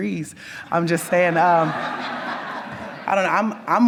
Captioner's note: audience laughs